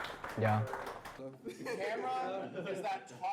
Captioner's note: everyone claps